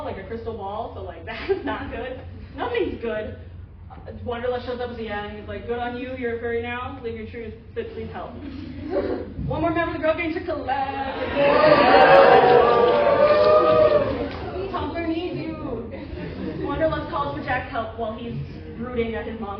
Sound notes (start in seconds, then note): 13.7 cheering